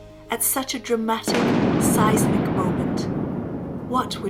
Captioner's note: explosion booming